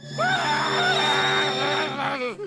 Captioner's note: yells